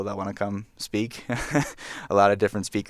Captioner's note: chuckles